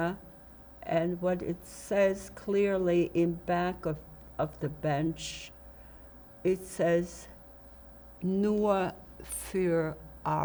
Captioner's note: german